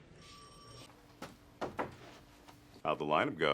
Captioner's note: knocking on door